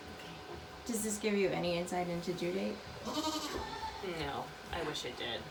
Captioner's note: Maybel bleating